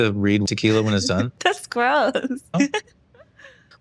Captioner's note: chuckles